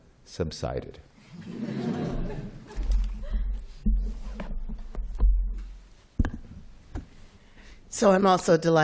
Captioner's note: laughing